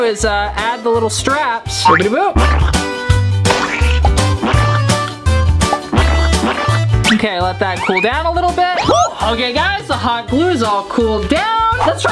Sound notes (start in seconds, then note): 3.5 cartoonish splatting; 5.8 upbeat accordion music